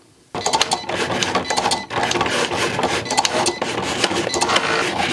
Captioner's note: Cricut machine cutting